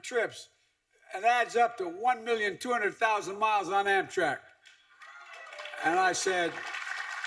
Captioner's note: applause